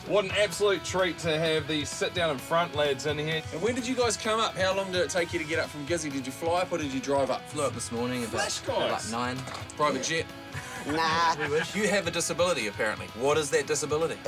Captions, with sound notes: What an absolute treat to have the Sit Down in Front lads in here. When did you guys come up? How long did it take you to get up from Gizzie? Did you fly up or did you drive up? - Flew up this morning at, like, 9. - Flash guys! - Private jet? (LAUGHTER) - Nah. We wish. - You have a disability, apparently. What is their disability?